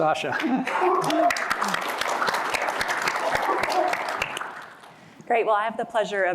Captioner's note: applause